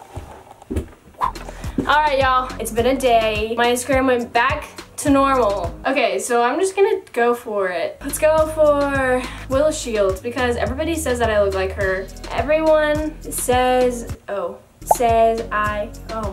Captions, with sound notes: (air whooshing) All right, y'all. It's been a day. My Instagram went back to normal. Okay, so I'm just gonna go for it. Let's go for Willow Shields, because everybody says that I look like her. Everyone says... Oh... Says I, oh my...